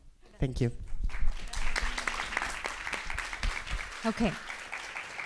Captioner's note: applause